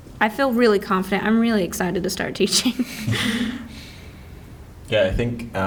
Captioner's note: laughs